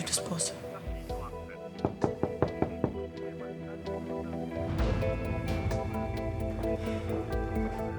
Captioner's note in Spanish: Toques en la puerta